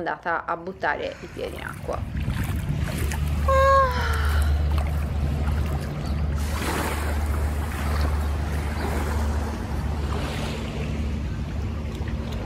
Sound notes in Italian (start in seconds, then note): 3.7 Rumore delle onde